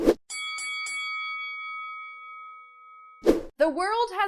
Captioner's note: bell ringing